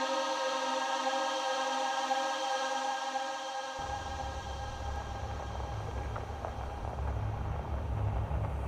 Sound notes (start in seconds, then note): 3.8 vehicle approaching